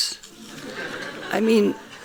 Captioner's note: laughing